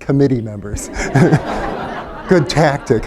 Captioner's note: laughter